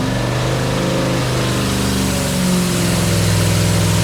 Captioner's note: engine revving